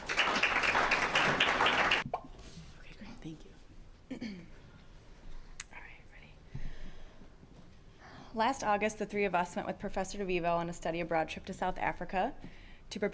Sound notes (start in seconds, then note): 0.0 applause; 2.8 whispering